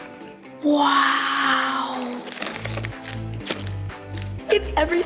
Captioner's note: gasps